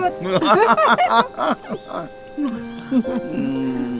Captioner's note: both laughing